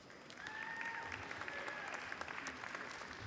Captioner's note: applause